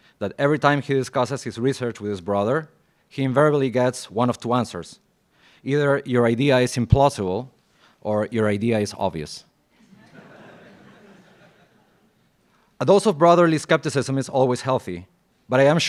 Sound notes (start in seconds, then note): 9.8 laughs